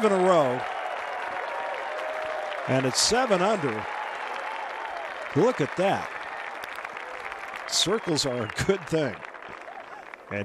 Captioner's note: cheers and applause